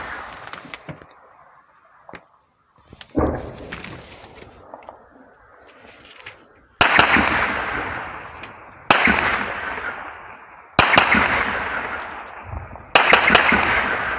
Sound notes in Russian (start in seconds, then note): 2.8 Стрельба из танкового пулемета